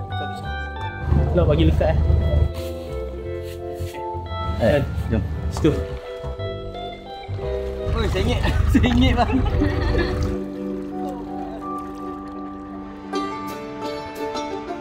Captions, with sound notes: Please make it snug and fit. Let's go. The boat is tipping. - [laugh]